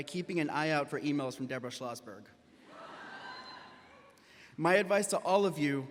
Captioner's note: graduates laughing